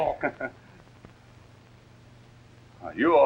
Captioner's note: laughs